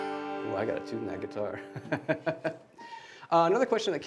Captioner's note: laughing